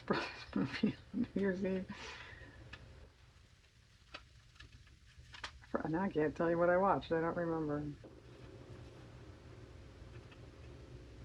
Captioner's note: laughs